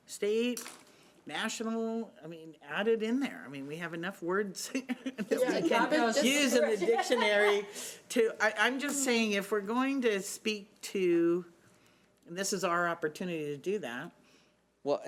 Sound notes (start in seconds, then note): 4.9 laughs; 5.2 chattering